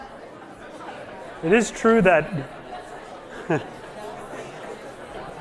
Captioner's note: laughs